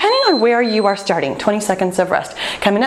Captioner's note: timer beeping